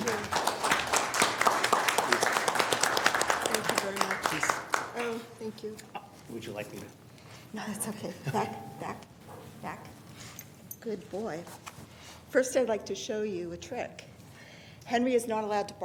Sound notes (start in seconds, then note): 0.0 applause